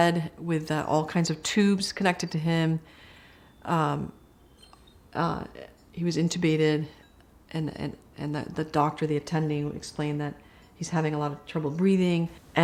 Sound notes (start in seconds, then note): 2.9 chiming